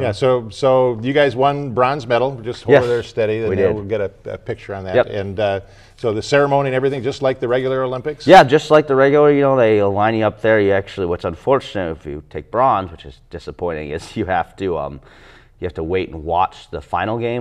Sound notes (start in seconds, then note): none